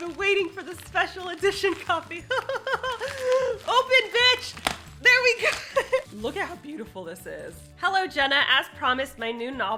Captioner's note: laughs